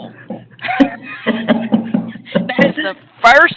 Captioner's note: laughter